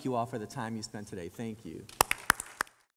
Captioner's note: applause